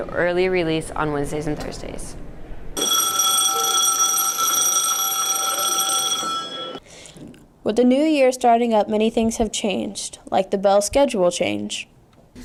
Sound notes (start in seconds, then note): 2.8 bell ringing